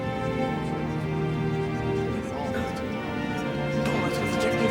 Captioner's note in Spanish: parloteo